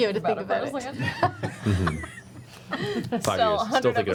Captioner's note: laughter